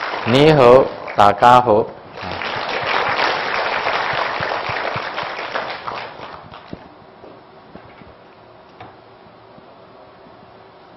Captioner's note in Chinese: 廣東話